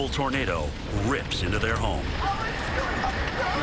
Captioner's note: panicked female voice